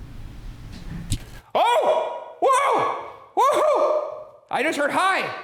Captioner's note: screaming